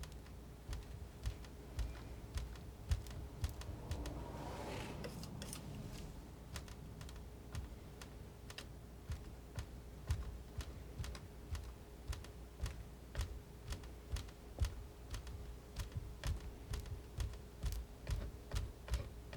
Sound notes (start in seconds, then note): 3.3 scissors snipping